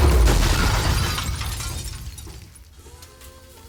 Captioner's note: glass shattering